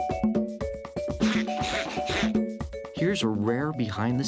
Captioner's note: chuckles shyly